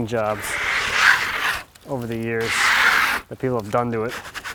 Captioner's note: tool scrapes